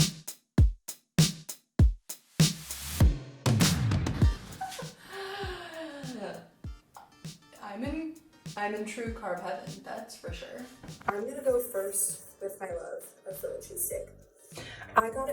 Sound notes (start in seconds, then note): 0.2 upbeat music; 4.4 laughs